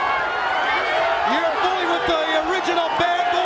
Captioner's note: crowd chatter